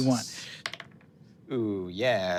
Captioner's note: dice rolling